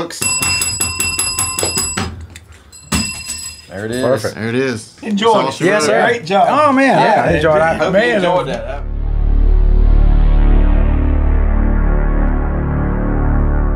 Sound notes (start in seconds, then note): 2.6 bell ringing; 7.4 dramatic music